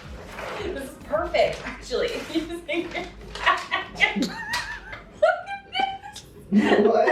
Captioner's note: laughing